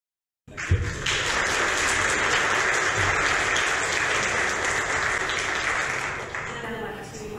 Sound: applause

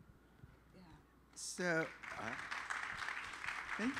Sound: applause

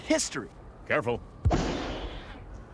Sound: <i> crash</i>

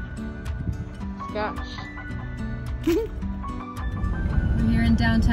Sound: chuckles

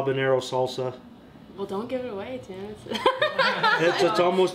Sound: laughter

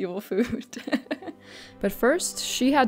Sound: chuckles

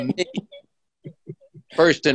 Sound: laughs

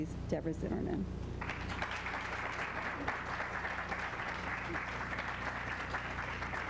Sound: applause

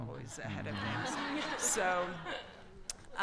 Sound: audience laughter

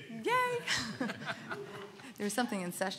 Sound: laughs

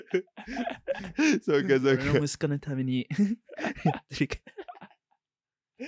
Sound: laughter

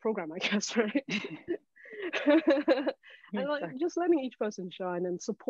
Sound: all laughing

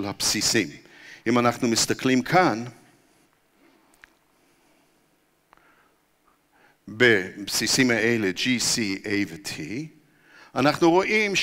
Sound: pause

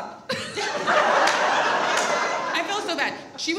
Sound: all laugh

